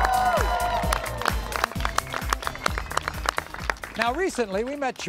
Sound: upbeat music; cheering

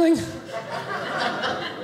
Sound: audience laughing

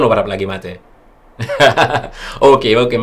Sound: chuckles

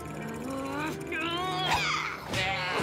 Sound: grunting

